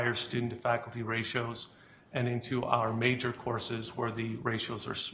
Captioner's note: none